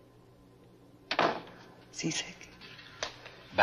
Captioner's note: door closing